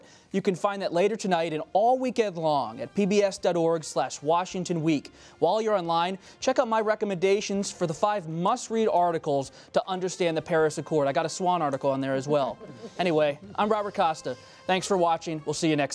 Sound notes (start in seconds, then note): 12.3 laughter